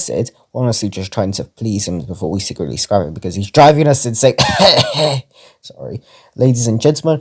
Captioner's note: coughs